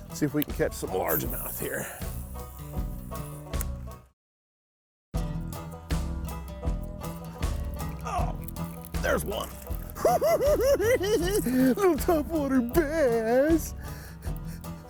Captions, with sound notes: See if we can catch some largemouth here. Oh! There's one! [cackling] Little top water bass!